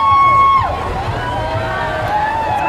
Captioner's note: crowd cheering